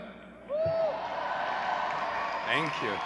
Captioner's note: audience cheering